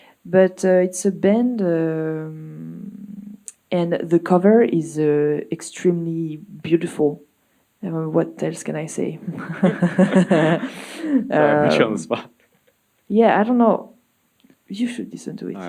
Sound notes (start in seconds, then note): 9.1 laughs